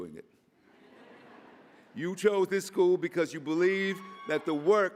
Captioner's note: laughter